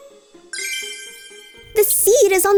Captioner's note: magical sounds